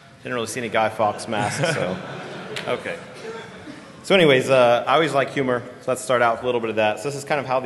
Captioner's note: laughter